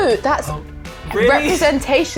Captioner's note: sighs